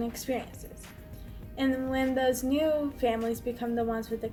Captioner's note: none